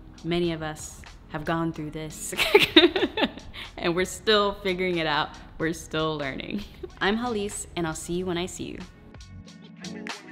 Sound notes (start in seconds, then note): 2.5 laughs; 10.0 upbeat electronic music